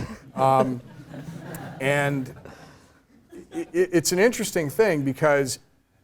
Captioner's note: laugh